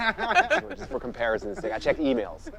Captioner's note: laughing